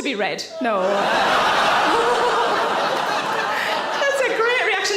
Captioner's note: audience laughing